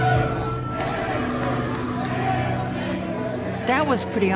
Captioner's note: chanting